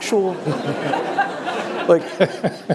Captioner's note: laughter